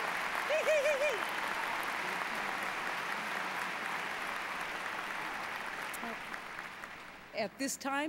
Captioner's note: applause